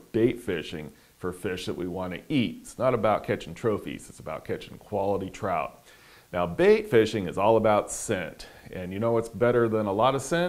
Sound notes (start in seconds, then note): none